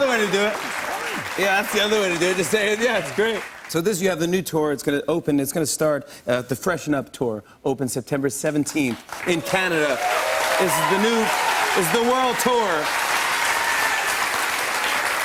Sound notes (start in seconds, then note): 0.0 applause; 9.0 cheers and applause